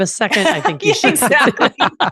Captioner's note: laughs